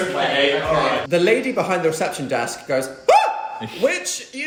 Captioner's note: shrieks